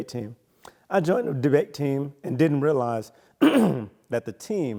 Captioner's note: clears throat